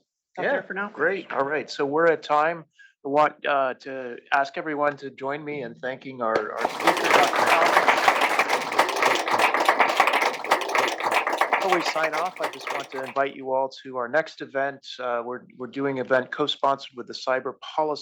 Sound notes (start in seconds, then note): 7.9 applause